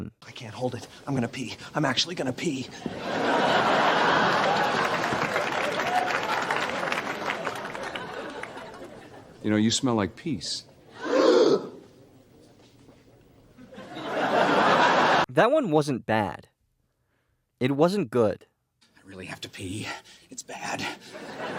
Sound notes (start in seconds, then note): 2.8 laugh track, then applause; 10.9 audience gasp; 13.5 laugh track; 20.9 audience laughter